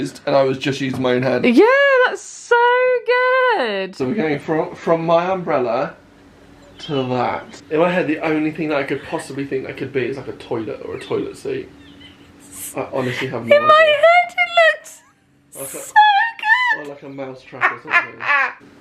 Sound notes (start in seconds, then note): 17.5 laughing